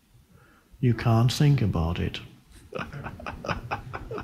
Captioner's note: laughs